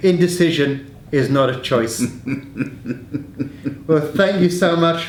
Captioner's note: laughs